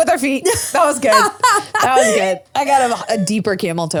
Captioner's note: laughs